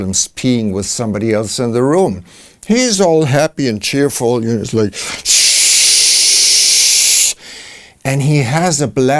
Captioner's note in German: shshshshsh